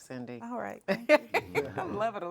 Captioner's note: laughing